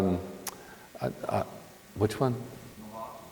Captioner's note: participant speaks faintly